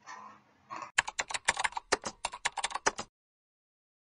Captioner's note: natyskannja klaviš